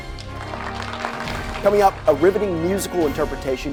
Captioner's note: audience applauding